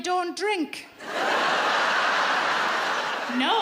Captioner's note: audience laughs